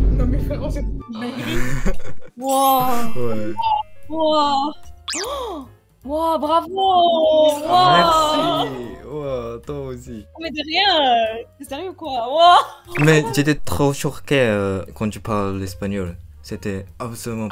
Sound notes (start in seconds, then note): 5.2 gasp; 6.0 по-французски